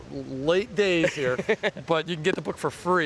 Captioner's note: laughing